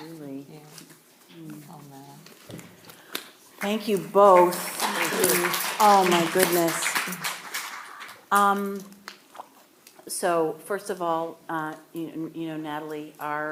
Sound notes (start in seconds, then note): 3.5 audience clapping